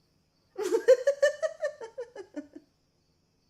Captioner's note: giggling